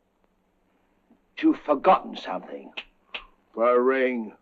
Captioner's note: snapping fingers